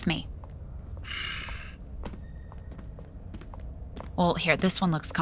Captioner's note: Footsteps as Sophrosyne leads Chartrulean into a seating area